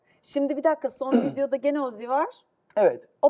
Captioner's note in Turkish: boğazını temizler